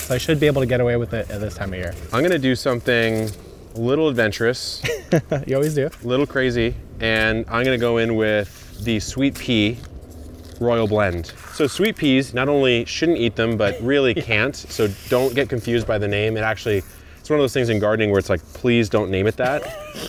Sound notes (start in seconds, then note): 4.7 chuckles